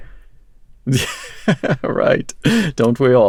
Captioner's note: laughs